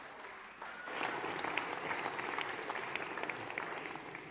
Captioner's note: all applauding